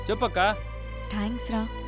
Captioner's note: none